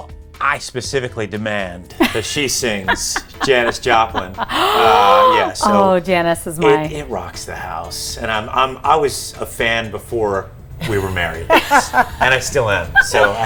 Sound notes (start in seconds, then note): 3.7 Tamsen laughs and gasps